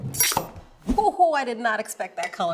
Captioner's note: knife chops